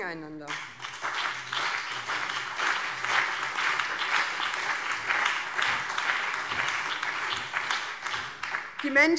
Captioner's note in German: Beifall BÜNDNIS 90/DIE GRÜNEN und CDU